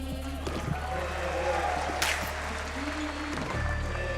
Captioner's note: audience cheering